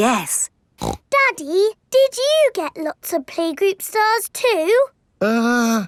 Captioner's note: snorts